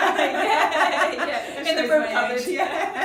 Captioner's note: they laugh heartily